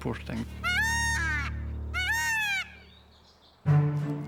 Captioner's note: peacock squawking; pensive music